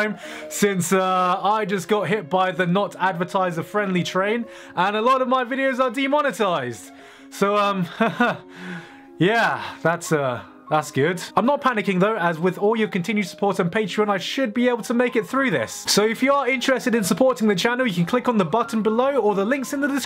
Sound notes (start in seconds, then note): 7.8 awkward laughs